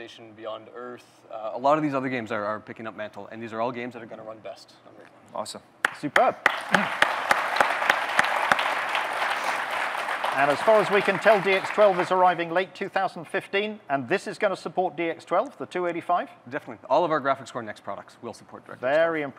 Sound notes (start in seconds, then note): 6.4 clapping